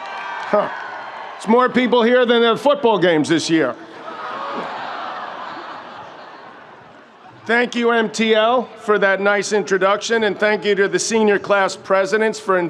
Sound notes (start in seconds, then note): 3.7 audience laughs